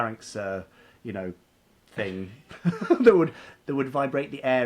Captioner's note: laughs